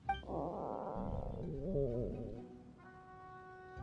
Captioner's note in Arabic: تذمر المعدة